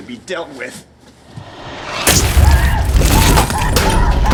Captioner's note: screaming